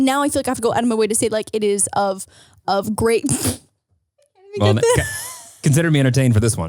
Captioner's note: laughs